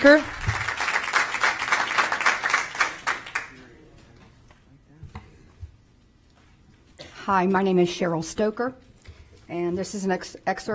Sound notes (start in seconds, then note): 3.1 applause